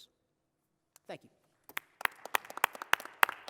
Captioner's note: applause